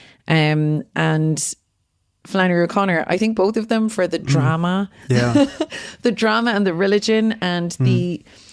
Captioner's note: laughs